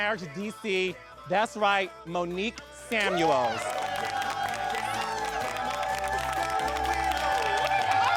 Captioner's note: audience applauding